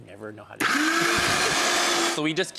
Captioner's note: blender whirring